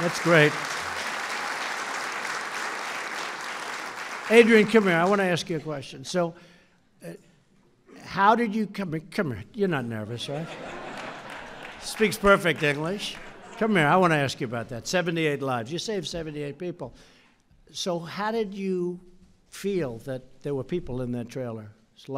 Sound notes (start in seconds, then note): 10.2 laughter